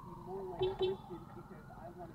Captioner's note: boopboop